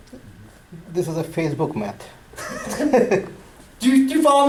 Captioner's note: voiceover